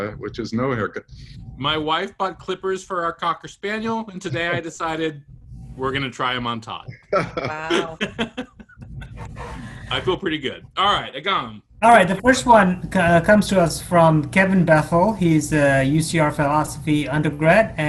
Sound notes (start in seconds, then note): 6.9 laugh